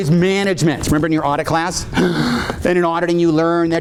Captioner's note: gasps